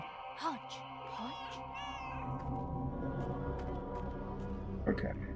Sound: Hodge meows

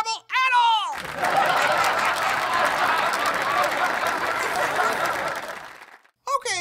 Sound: laughter/applause

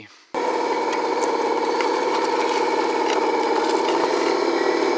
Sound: bulldozer engine revving

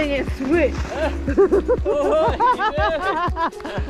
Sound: laughing

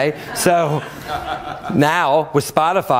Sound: laughter

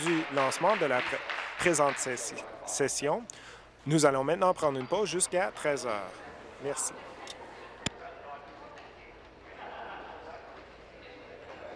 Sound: applause

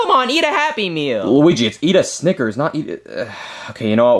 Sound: sighs

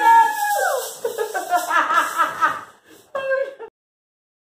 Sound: laughing

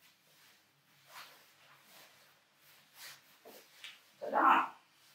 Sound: clothes rustling

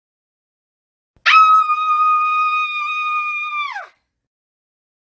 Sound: scream

